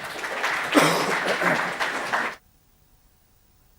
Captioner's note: audience claps; coughs; audio silenced briefly